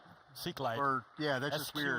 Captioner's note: laughing